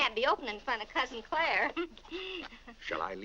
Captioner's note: chuckles